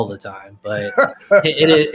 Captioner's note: laughs